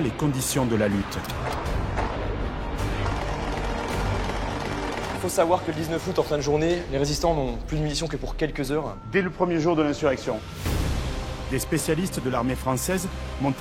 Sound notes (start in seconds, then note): 2.7 shooting sounds